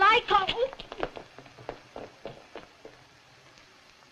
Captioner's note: footsteps